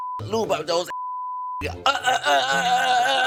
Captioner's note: grunting